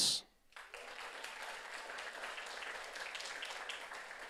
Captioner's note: audience applauds